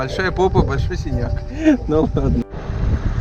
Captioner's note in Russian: смеется